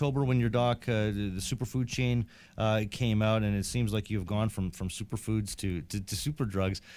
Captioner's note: none